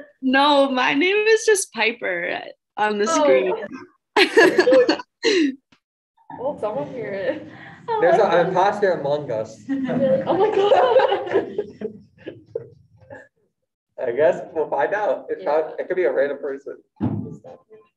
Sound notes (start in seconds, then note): 9.7 laughing; 17.4 music continues